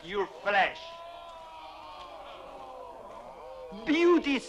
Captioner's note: chieftains exclaiming